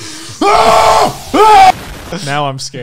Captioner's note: screams